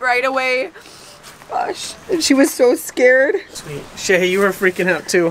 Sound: sniffling

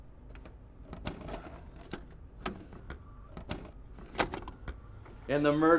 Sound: cassette clatters

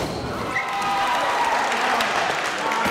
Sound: cheering

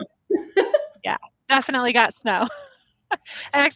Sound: laughs

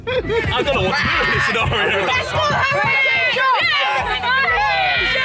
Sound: students shouting

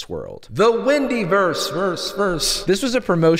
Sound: echoing

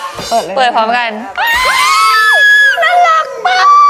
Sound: scream!!

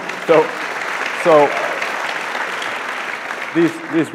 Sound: audience clapping

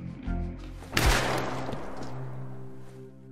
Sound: shoots

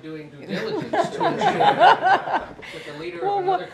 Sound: laughter

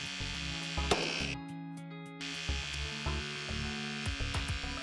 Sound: mechanical whirring

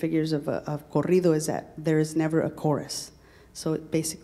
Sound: speaking in Spanish

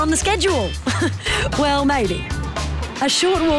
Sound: chuckles

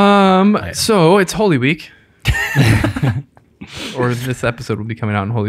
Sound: all laugh

